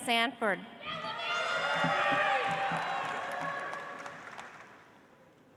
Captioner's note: audience applauds